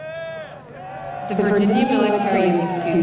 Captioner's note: crowd noise